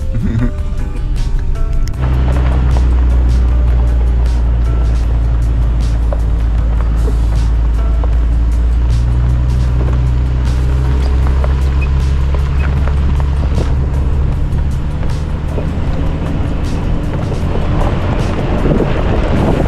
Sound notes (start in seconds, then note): 4.6 laughing